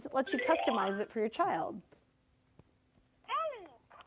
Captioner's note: Elmo beeps